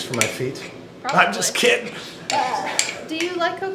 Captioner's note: laughs